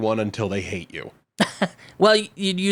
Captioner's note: laughing